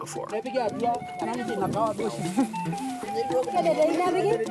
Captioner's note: both speaking in native language